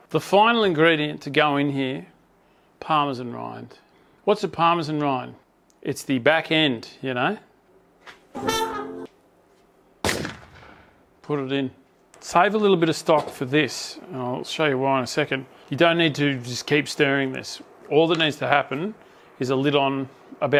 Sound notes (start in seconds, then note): 10.0 boom